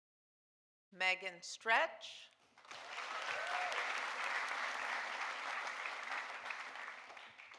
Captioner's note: audience applauding